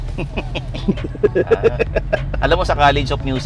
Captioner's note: both laughs